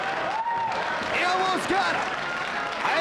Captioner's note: audience cheering and applauding